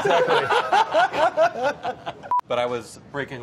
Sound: laughter

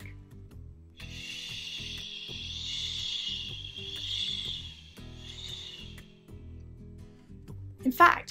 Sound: makes soft ssshhhh noise

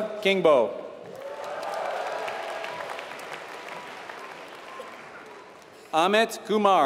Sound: applause

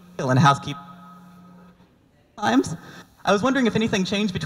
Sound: mic cutting out

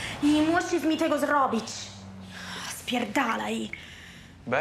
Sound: speaks in polish

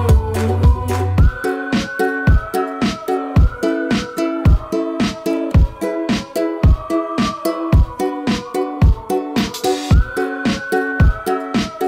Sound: whistling

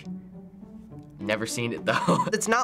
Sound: laughs

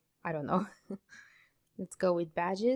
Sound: laughs

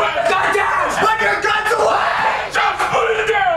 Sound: instant Screaming

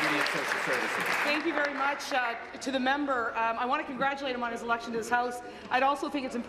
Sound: applause

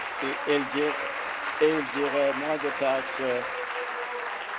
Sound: applause

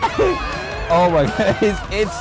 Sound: bystanders scream in terror

